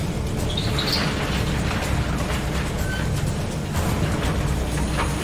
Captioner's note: noise of empty overhead grabbers on rails